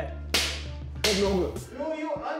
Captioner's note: speaking japanese